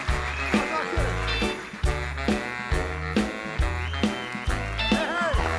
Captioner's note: audience applauding